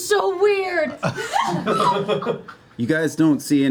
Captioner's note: laughter